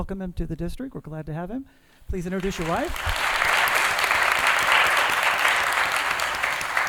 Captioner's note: applause